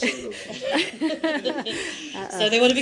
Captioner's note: laughter